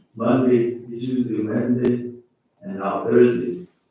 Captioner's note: faintly speaking